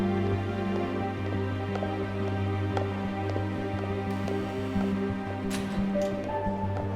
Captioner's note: gentle music; heels clicking